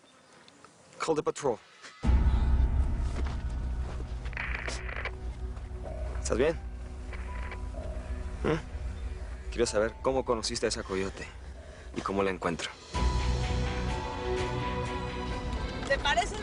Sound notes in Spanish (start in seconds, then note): 5.7 Ruido del radio